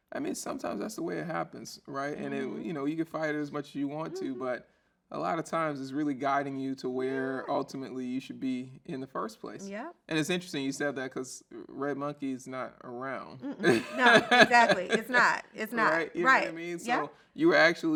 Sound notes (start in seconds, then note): 13.5 laughs